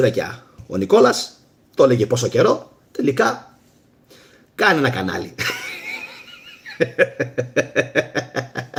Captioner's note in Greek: γέλια